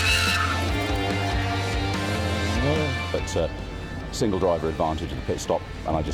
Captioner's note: tyre Screech